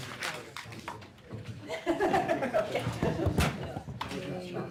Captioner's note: laughter